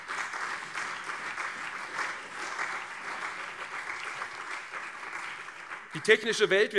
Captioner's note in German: Beifall CDU und SPD